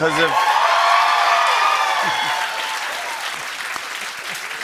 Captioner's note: cheers and applause